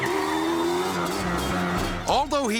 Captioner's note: ATV accelerating